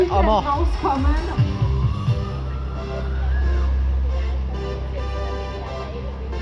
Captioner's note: upbeat music; announcer speaks in foreign language